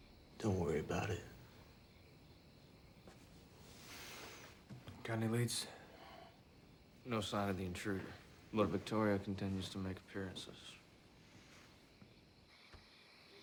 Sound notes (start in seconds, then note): none